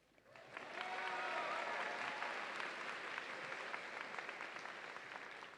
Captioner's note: audience applauds and cheers